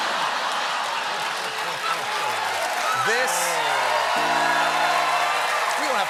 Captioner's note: cheers and applause